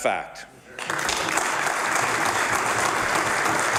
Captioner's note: applause